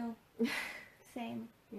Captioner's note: laughs